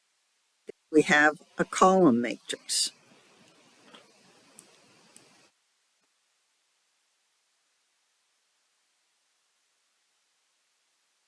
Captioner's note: 11-second silence